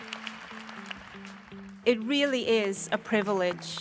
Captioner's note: applause